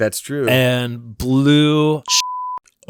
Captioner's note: beep